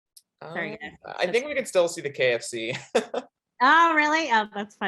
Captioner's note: chuckles